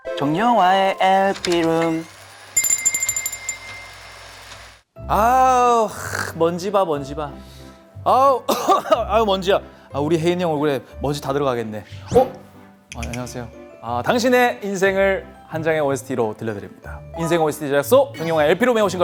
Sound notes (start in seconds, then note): 8.4 cough cough